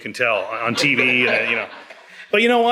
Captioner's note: audience laughs